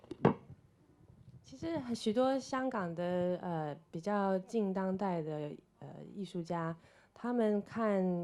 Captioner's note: Mandarin